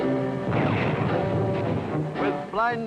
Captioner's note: bomb blasts